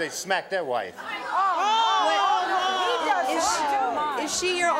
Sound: audience yelling

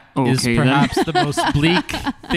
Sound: laughs

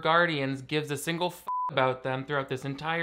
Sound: beep

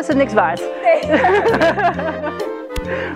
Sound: laughing

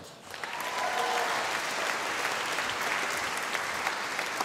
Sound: audience applauding

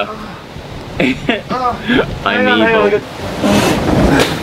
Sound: laughs; moans

